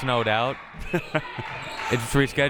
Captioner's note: laughs